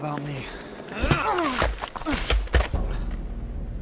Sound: pain grunts; grunt - BAM!; thud!

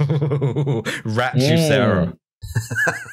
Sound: laughter

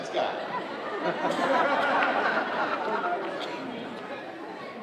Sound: audience laughing

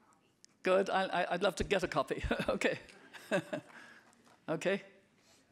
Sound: laughing

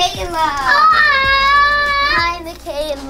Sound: yells

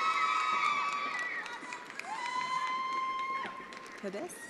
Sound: attendees applauding

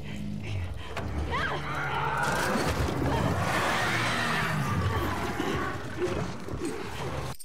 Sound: zombie roaring; Abby screaming

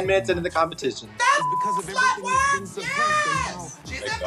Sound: beep

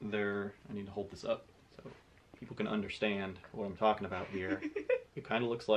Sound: laughs in background

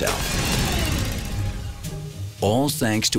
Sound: whirring

